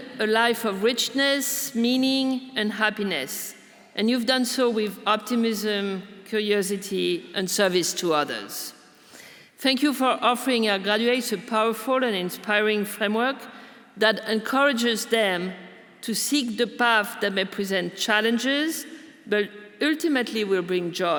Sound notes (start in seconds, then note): none